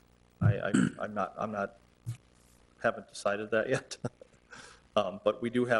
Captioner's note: laughing